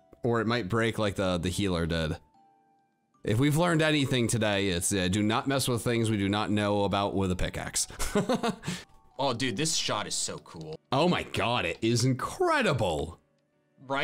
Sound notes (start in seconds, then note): 8.4 laughs